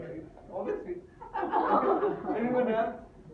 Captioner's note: laughter in audience